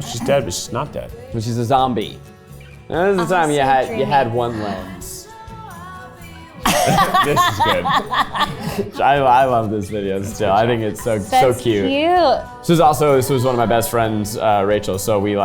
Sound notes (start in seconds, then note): 6.6 laughs